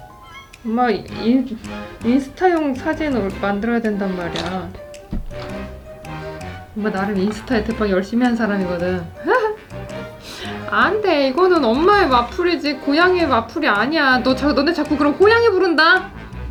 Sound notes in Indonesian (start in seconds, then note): 9.1 tertawa